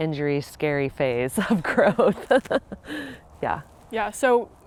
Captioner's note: laughs